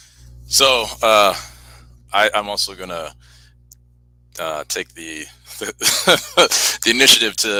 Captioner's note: laughs